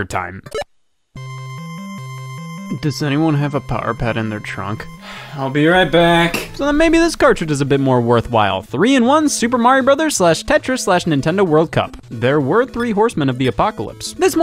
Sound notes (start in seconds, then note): 0.7 retro video game music; 5.0 sigh